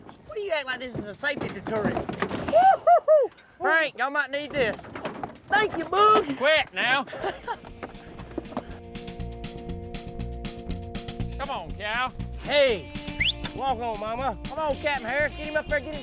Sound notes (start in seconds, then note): 0.8 clanging, rocking sounds; 13.1 whistling